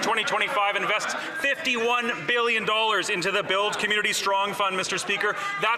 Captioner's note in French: voix de l'interprète